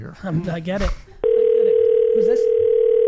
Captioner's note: phone ringing